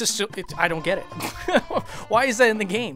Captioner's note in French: rires